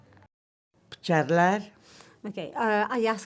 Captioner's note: speaks Spanish